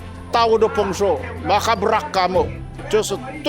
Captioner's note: speaking Yami